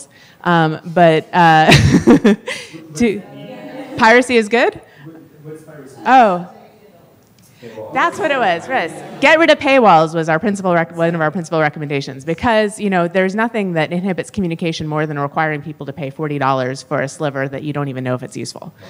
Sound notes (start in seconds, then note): 4.8 audience responses